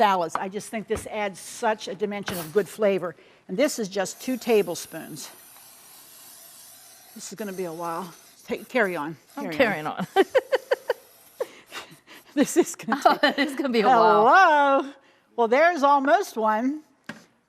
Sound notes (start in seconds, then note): 10.1 chuckling